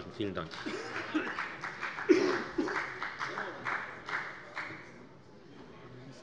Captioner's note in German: Beifall bei der FDP